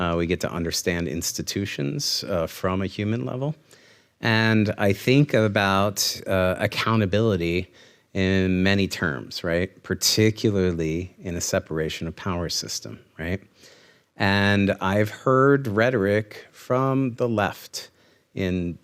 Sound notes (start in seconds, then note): none